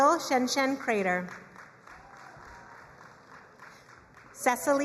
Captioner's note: crowd cheering and applauding